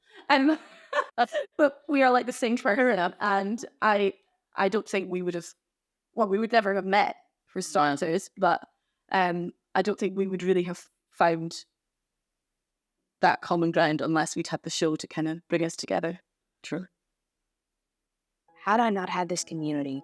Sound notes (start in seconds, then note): 0.1 laughs